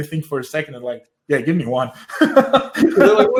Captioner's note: laughs